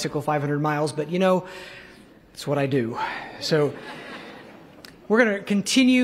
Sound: laughter

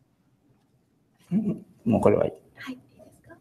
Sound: speaking japanese

